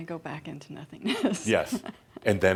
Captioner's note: she chuckles